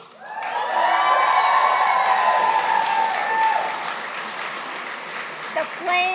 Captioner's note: applause